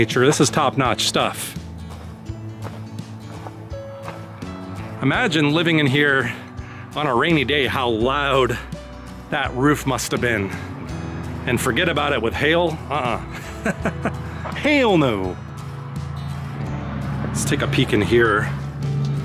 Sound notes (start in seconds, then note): 13.0 laughs